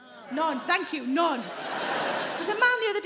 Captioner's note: audience laughing